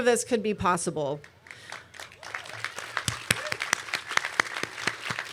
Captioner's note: applause